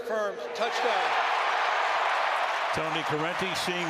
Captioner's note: cheering